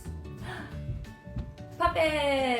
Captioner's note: gasp